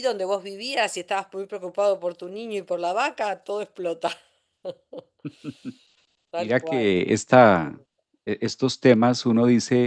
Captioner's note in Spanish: risas